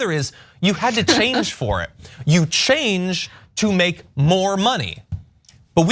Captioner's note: laugh